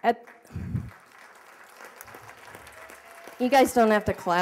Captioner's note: applause